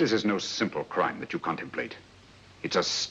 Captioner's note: none